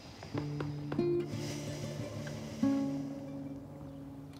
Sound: Sam sighs

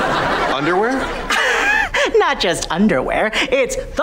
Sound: chuckles

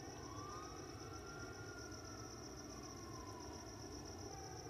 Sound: distant siren wails

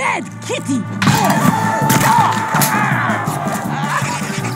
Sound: exclaiming

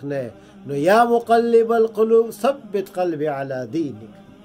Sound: Arabic

